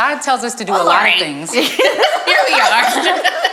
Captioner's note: group laughs